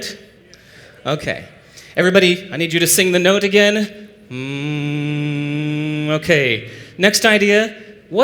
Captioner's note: hum